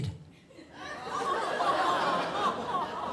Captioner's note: crowd laughs